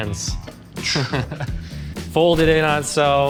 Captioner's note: laughs